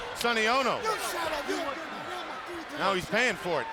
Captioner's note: wrestlers shouting